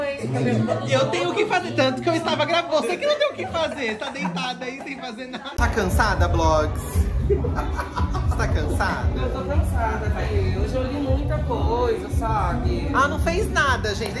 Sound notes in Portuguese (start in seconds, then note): 7.3 Blogueirinha ri